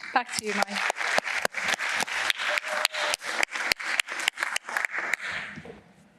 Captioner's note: applause